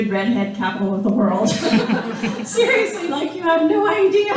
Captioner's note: laughing